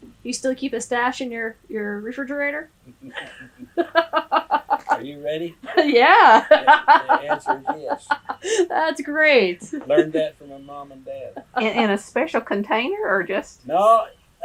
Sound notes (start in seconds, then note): 2.8 laughs; 8.6 laughter; 9.4 laughs